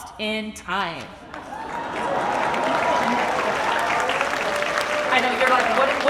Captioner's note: audience applauds and cheers